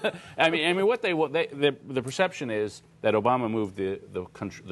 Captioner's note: laughter